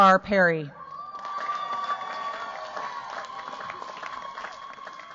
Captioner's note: cheers, applause